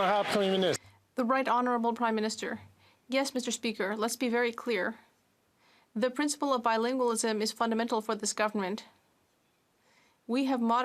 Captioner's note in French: applaudissements